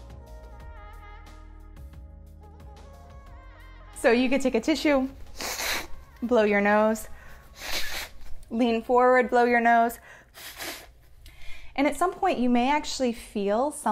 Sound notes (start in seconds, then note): 5.2 nose blowing; 10.3 nose blowing